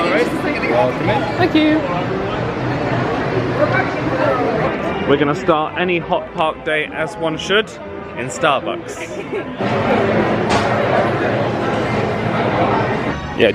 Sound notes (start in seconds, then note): 8.9 laughs